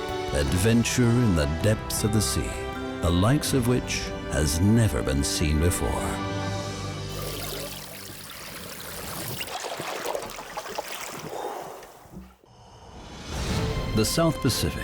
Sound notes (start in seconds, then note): 7.1 water bubbling; 11.2 diver exhales